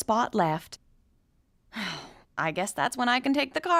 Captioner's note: sighing